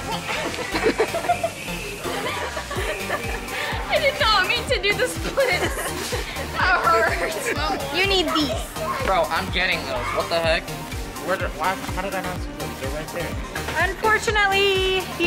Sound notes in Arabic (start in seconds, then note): 0.0 الفتيات تضحك; 4.8 أطفال يضحكون